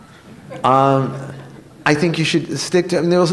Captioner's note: laughter